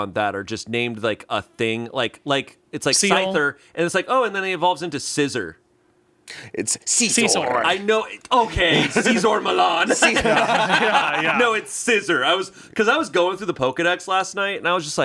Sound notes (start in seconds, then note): 8.6 everyone laughs